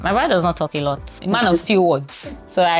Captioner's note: laughs